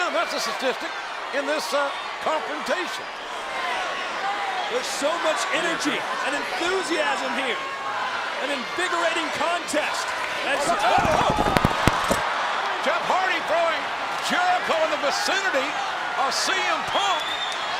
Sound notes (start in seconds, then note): 3.4 crowd roars; 10.9 microphone crackles